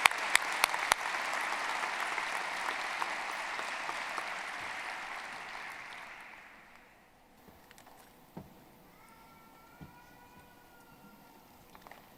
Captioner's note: applause